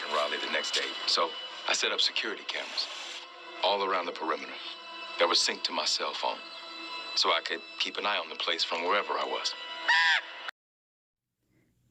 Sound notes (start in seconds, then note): 9.8 crow squawks